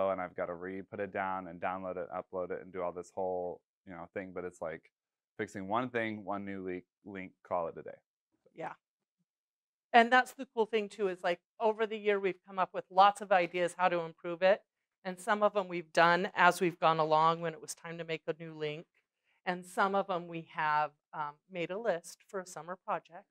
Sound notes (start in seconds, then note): none